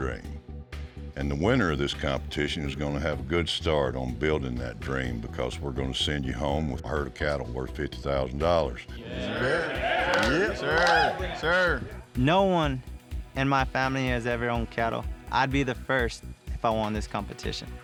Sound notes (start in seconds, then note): 9.0 all chattering, cheering